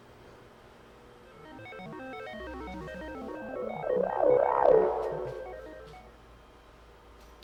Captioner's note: teleportation sound